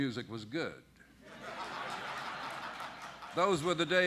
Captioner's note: laughter